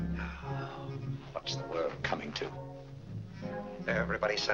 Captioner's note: sighs